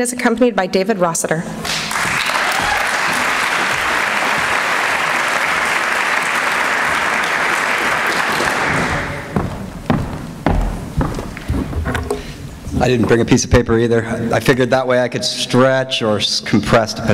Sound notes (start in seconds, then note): 1.6 applause